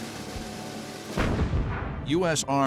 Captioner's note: explosion